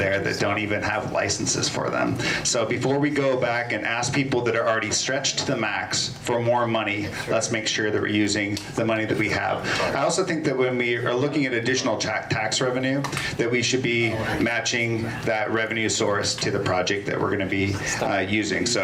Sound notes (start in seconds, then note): none